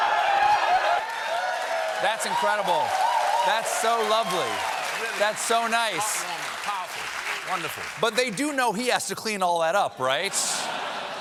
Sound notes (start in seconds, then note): 1.5 cheers and applause